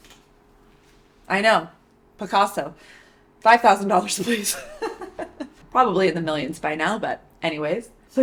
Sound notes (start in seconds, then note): 4.2 laughs